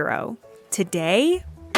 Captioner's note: sound of a gavel bang